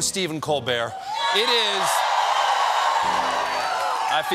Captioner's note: cheers and applause